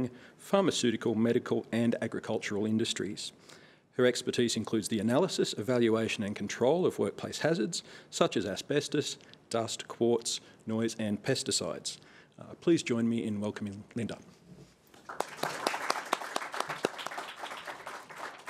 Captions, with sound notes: pharmaceutical, medical and agricultural industries. Her expertise includes the analysis, evaluation and control of workplace hazards, such as asbestos, dust, quartz, noise and pesticides. Please join me in welcoming Linda. (Applause)